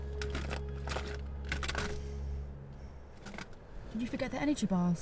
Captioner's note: objects rattle